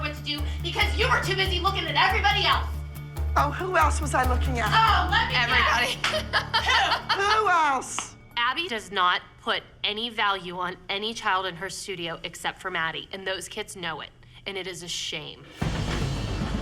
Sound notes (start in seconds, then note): 4.7 laughing; 15.5 tense music playing